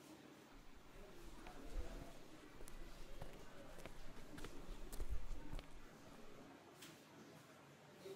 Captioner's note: ambient hospital noise; footsteps